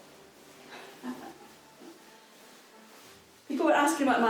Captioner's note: woman giggles